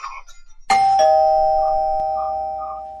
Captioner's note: doorbell rings